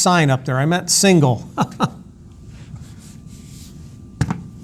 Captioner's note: laughs